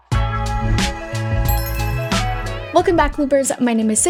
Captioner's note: text dinging; upbeat music